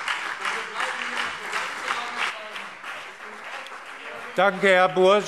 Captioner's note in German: Beifall